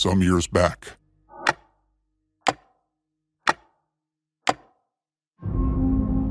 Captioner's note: clock ticking